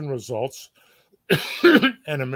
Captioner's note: cough